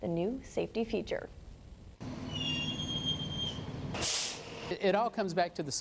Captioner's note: squeak and whoosh sound